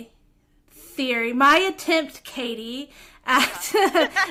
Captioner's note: laughter